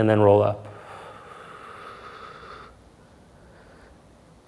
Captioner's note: exhales softly